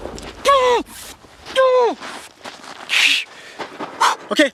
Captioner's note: pained gasps